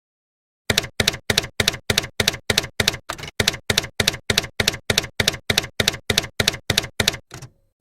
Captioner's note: typewriter keys clacking